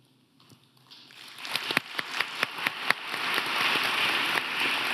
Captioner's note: audience applauding